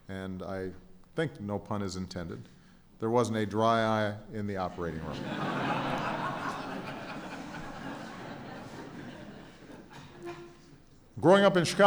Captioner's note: laughter